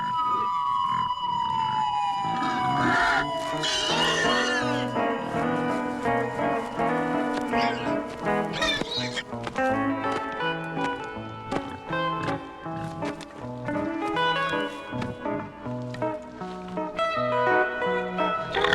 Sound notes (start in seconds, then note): 1.4 police siren, pigs squealing